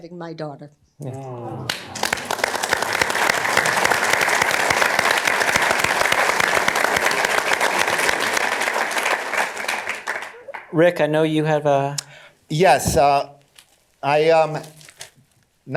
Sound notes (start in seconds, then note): 3.3 applauding